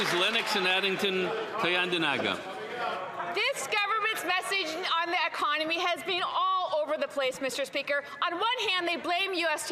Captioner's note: some Applause